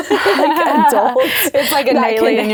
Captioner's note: both laughing